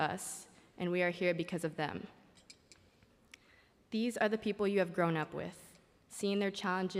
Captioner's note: speaking spanish